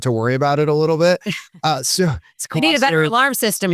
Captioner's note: laughs